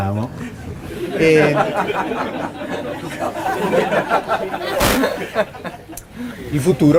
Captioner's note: laughing